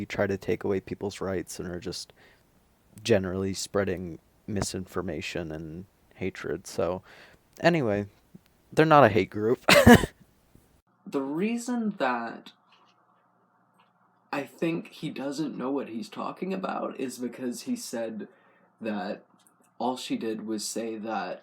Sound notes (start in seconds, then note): 9.7 laugh